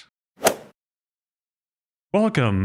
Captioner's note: golf ball hit sound